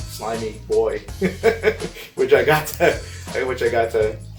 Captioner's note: laughing